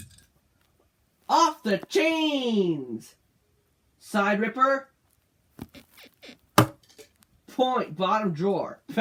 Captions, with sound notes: Off the chains! Side Ripper [bed squeaks] Bottom drawer, that's a point